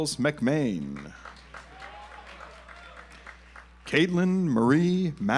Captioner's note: audience applauds